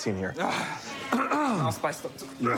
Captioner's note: clears throat; coughs